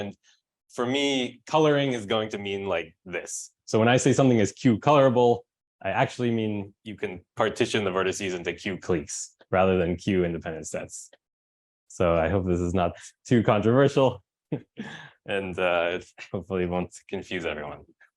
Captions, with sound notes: And for me coloring is going to mean like this. So when I say something as q colorable, I actually mean you can partition the vertices into q cliques rather than q independent sets. So I hope this is not too controversial (chuckles) and hopefully it won't confuse everyone.